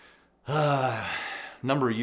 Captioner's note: sighs